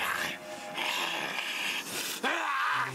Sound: snarling

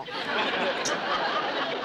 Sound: laughter

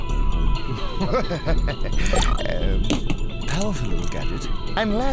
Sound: chuckles

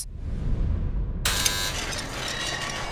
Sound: buzzer buzzing

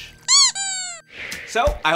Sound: squeak

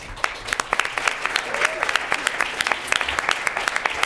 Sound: applause

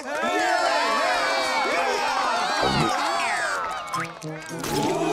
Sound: customers cheering

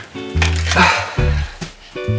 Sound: exhale

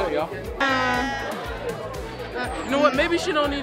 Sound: bystanders squealing

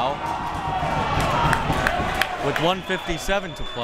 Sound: crowd members shouting

